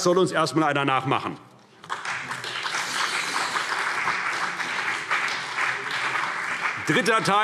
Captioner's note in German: Beifall CDU und BÜNDNIS 90/DIE GRÜNEN